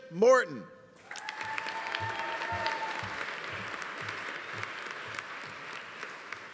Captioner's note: audience applauding; audience cheering